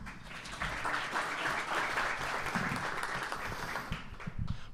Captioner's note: audience applauding